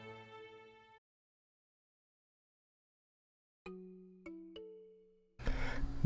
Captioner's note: moment of silence